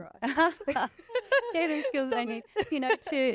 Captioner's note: all laughing